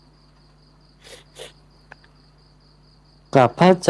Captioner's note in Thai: เสียงสูดหายใจ